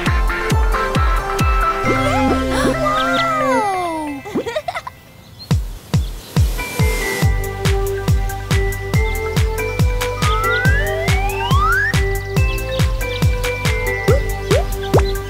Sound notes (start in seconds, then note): 4.0 giggling